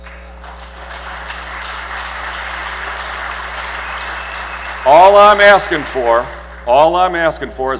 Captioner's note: applause